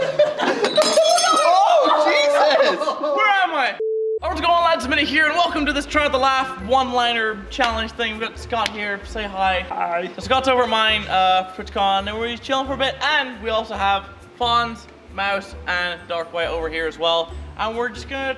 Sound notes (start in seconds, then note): 0.6 glass breaks